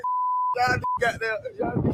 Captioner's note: beep; wind blowing